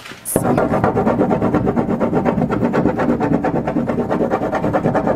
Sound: wood scraping canvas

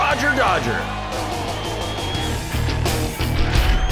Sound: cheers

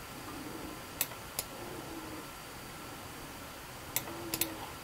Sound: mouse clicking

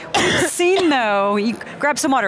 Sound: coughs

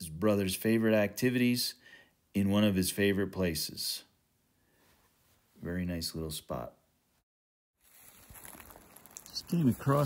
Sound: light wind noise

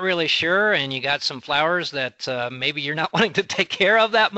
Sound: chuckling

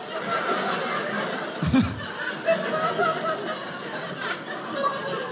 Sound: audience laughing

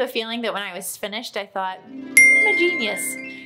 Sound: ding

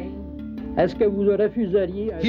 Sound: speaking French

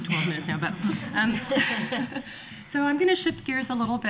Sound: laughing

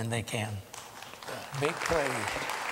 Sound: applause

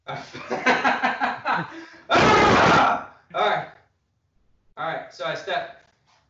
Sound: laughs loudly

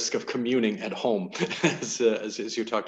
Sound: chuckles

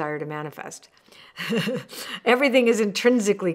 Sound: chuckling

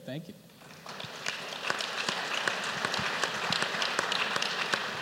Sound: applause

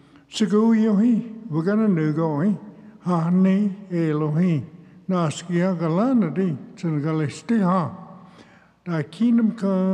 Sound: speaks Cherokee

